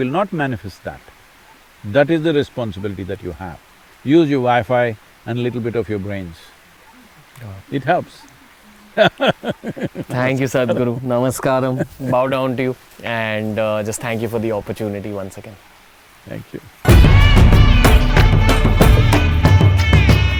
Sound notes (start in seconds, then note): 9.8 laughs